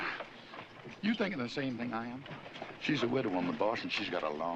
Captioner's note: chuckling